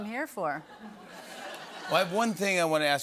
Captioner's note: laughter